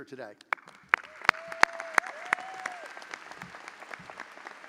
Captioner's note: audience applauding